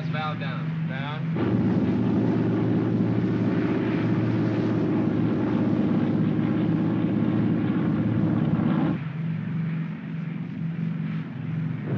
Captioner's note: aircraft rumbles